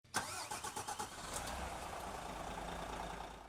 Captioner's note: engine revs